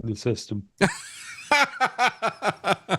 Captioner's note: laughing